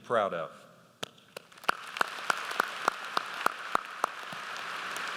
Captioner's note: audience applauds